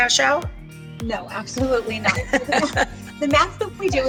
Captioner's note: laughs